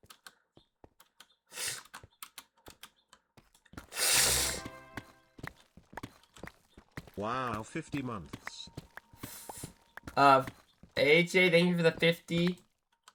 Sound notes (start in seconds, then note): 0.6 snorts